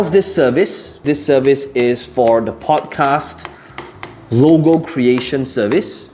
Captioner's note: tapping marker